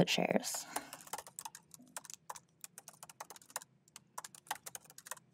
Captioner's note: keyboard clanking